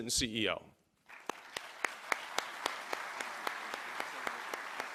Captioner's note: applause